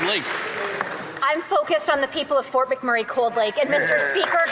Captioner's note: some Applause